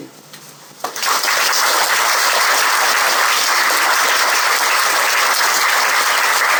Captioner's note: applause